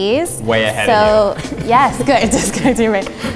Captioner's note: chuckles